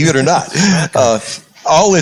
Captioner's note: laugh